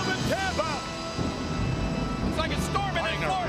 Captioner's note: thunder rumbles